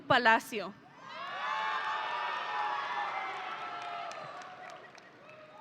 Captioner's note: audience cheering